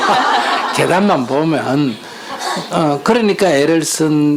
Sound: audience Laughter

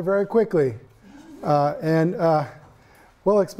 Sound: students laughing

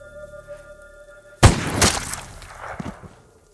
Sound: gunshot

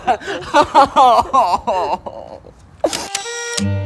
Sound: insane laughter; crying

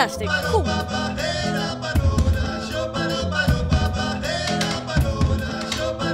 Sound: percussion music; guy vocalizing

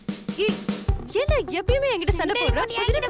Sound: mouthing

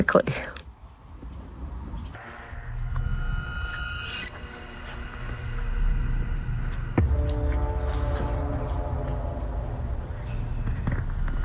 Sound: birds chirping

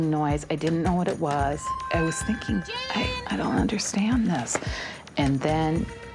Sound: screams

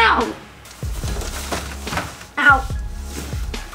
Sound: loud rustling

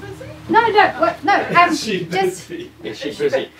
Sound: laughs

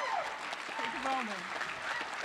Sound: applause

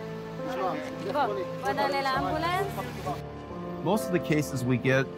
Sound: medics speak foreign language

